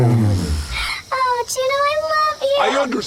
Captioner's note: yelling; Juno neighs in greeting; Juno neighs into the scene